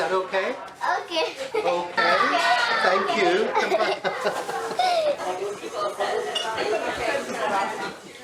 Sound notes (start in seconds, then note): 1.1 laughing; 3.6 both laughing